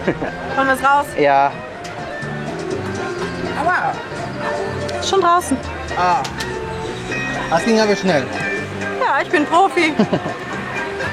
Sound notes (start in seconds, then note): 9.8 laughs